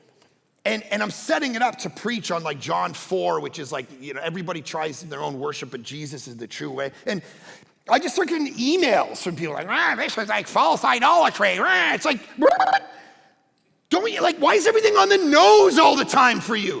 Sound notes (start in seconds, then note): 11.2 pastor murmuring